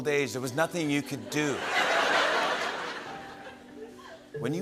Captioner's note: laughter